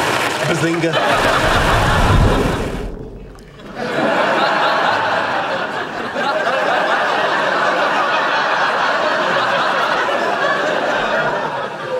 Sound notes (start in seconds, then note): 3.4 audience laughing